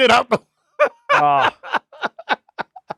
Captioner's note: laughing